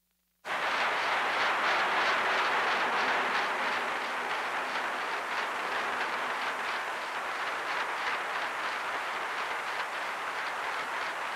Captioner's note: applause